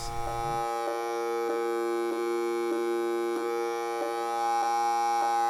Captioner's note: buzzing